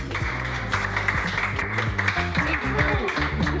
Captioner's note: applause